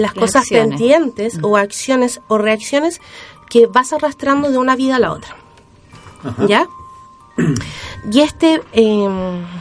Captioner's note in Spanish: carraspeo